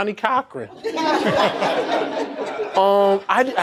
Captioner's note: laughter